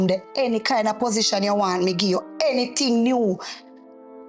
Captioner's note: speaking in foreign language